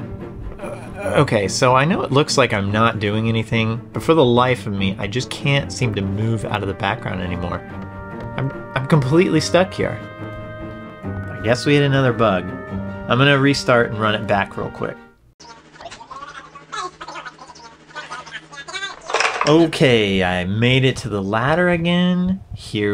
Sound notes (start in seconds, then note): 15.5 silly fast-forwarded sounds